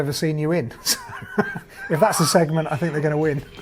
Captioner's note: laughing